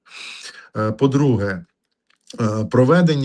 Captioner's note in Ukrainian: сопіння